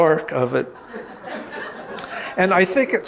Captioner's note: audience laughing